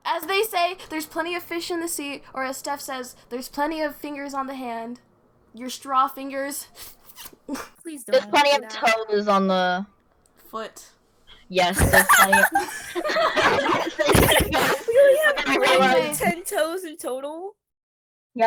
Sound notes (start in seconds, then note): 6.8 sIpPINGNOISES; 11.7 groupie Giggles